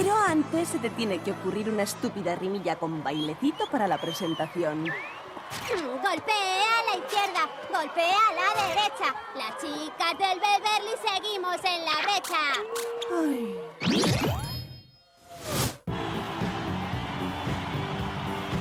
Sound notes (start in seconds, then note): 5.8 cheering; 12.9 sam groaning; 15.8 music playing, crowd cheering